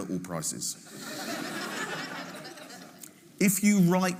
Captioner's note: audience laughing